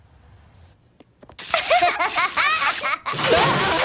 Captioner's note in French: rires